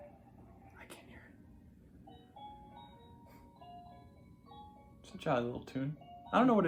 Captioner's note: whispering